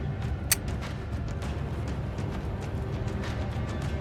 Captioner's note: gun clacking